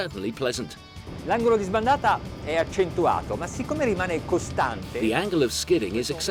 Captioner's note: speaking foreign language